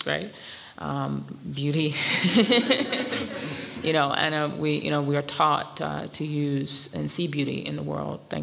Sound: laughs

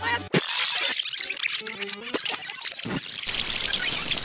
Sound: warped rewinding noises; even louder rewinding sounds

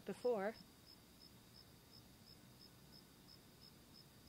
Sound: crickets chirping

